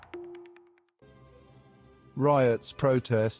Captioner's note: narrator over music